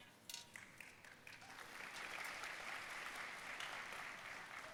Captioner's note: audience applauding